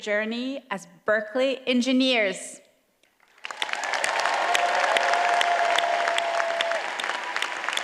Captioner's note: cheers and applause